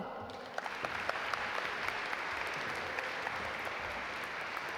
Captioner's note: audience applaud